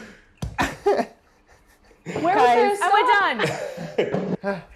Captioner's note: laughing